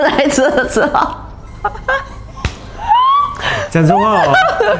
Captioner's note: laughter